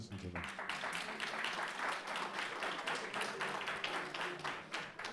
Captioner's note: audience applauding